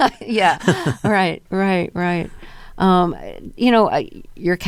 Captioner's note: laughter